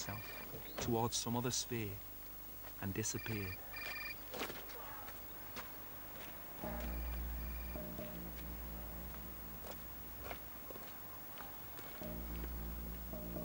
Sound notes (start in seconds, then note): 3.0 mobile phone ringing; 6.6 tense instrumental music